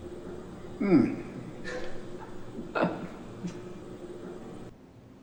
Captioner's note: interviewer laughs